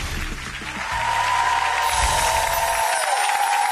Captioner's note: cheering